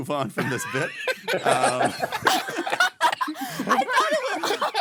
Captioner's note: laughing